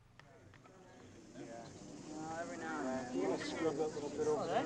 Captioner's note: crowd murmuring